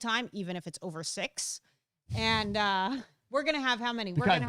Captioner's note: chuckles